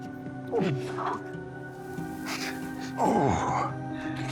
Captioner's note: creaking sound